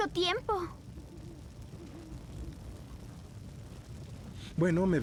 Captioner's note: owl hooting